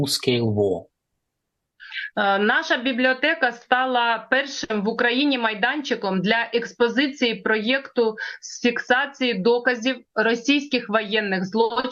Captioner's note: foreign language